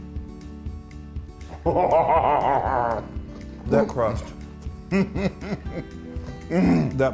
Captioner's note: laugh